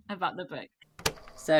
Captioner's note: tape recorder clicks